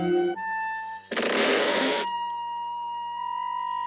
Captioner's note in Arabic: تُصدر النافذة صريرًا عاليًا